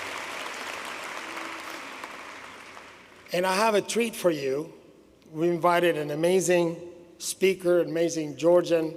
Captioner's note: applause